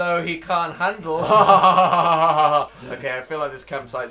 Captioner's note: laughs evilly